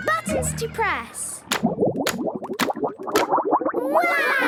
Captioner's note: bubbling